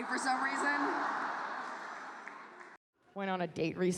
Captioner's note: audience laughs